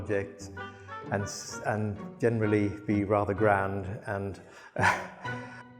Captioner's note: laughs